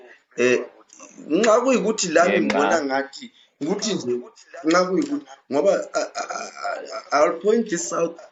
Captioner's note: stammers